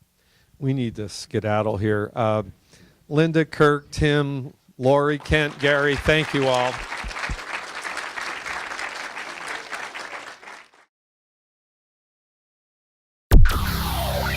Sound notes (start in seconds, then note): 7.3 applause